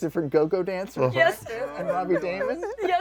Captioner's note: laughs